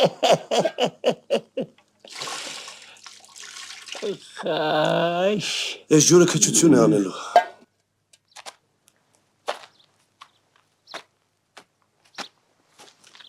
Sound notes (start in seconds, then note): 0.0 haha; 2.0 slosh